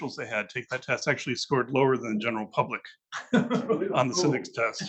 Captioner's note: laughs